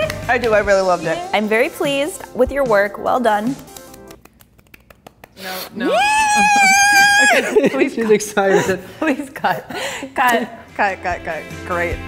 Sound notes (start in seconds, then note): 0.0 clapping; 4.6 clapping; 5.8 screaming